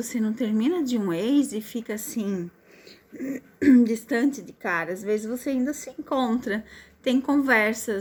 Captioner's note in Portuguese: limpando a garganta